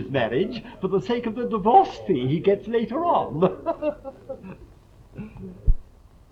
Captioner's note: laughs